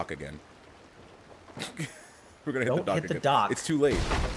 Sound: laugh

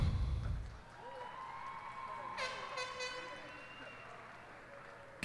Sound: cheers and applause

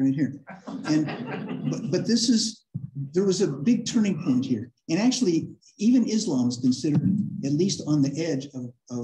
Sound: laughter

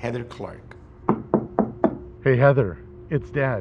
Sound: knocking

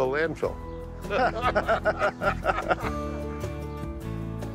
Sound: both laughing

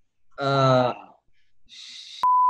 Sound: laughing; beep

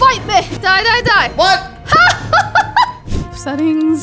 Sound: laughs

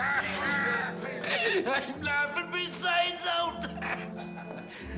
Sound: men laughing; laughs; gasps

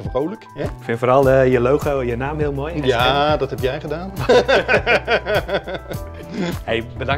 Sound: laughs

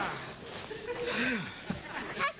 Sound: sighs

